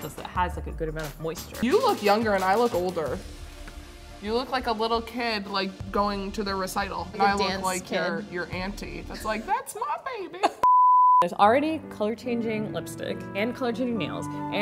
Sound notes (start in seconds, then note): 10.6 beeping